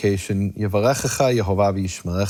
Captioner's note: speaks in foreign language